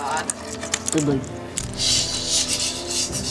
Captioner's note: miniatures clattering against each other; skittering legs